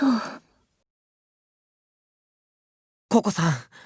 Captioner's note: silence